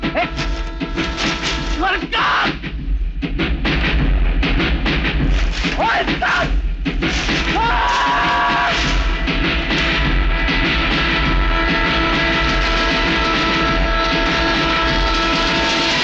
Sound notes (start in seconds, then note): 3.1 train rumbling; 9.0 train horn blares